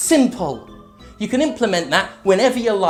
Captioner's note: inhales nasally